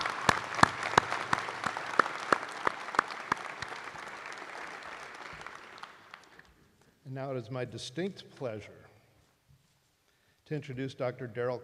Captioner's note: applause